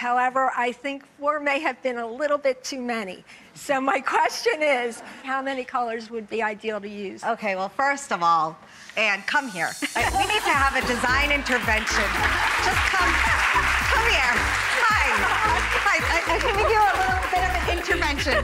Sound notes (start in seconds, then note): 11.8 laughing; 12.0 audience applauding